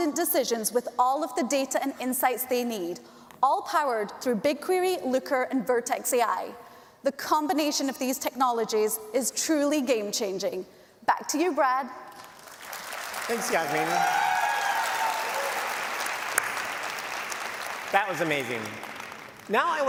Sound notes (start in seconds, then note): 12.7 applause